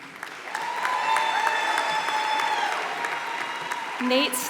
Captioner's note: applause